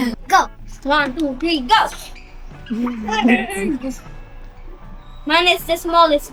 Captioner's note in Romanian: râsete